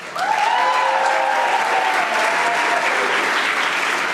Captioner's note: audience applauding